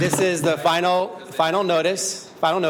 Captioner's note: shouting